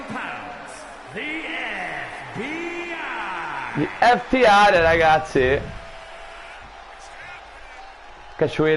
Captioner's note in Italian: Applauso